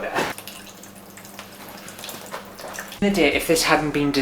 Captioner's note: water Dripping